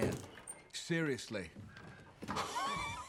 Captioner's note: laughs